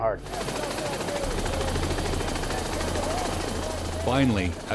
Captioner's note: sound of helicopter rotors; voiceover